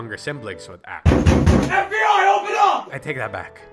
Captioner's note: knocking